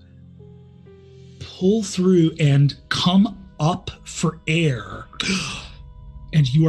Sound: gasps

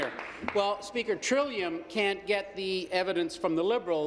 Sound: applause

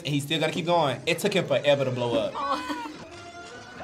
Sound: laughs

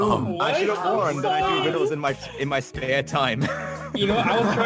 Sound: random chatter

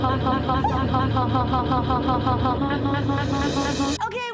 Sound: laughs; Alexa's laugh distorting

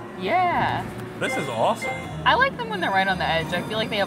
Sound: screen chiming

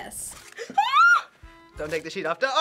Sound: shrieks

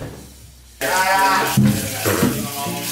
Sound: screams

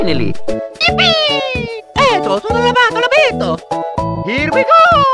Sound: italian gibberish

